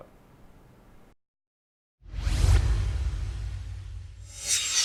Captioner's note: swoosh